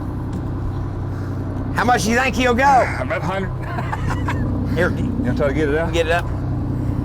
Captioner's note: laughter